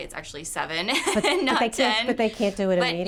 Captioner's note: laughs